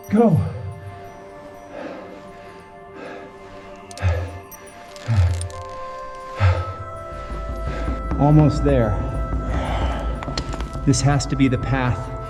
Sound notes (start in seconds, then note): 6.2 panting